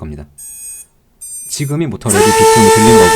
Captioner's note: motor ready beep